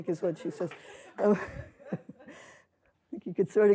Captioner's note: laughter